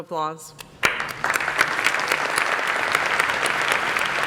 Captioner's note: applause